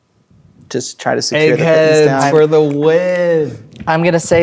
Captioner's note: snapping